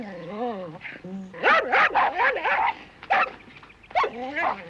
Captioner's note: growling; barking